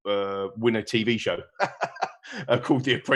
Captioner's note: laughing